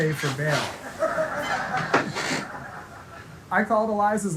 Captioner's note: audience laughing